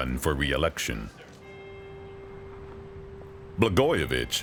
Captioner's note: bell tolling